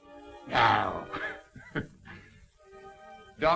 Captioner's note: laughing